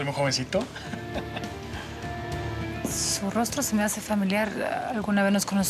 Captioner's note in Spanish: risas